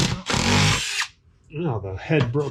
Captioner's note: drill whirring